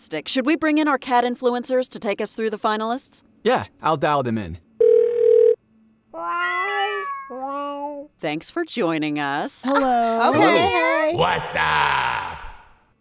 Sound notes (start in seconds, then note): 4.8 phone ringing; 6.6 group meowing